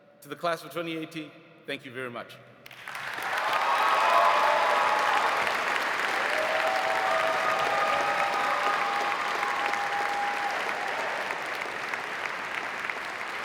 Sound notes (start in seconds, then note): 2.6 audience applauding; 2.9 audience cheering